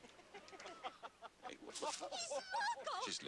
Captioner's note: laughter